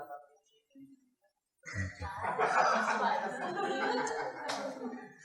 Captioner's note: laughter